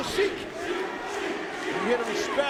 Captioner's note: spectators chanting "Sheik!"